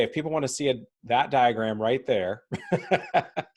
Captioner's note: laughs